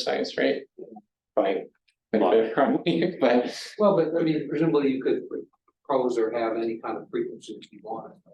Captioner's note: chuckling